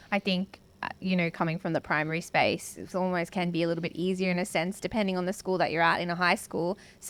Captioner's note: none